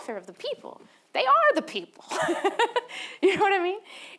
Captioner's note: laughs